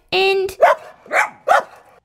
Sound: barking

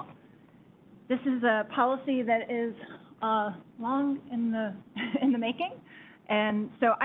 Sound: chuckles

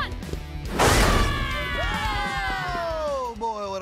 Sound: yelling

